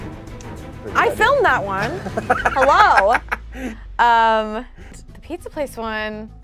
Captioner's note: laughs